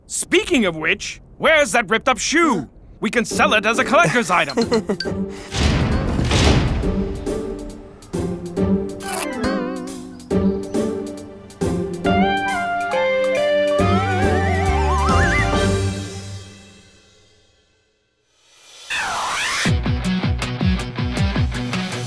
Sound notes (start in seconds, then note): 4.0 nervous giggling; 4.6 playful string music; 9.2 shoe ripping; 19.6 dramatic rock music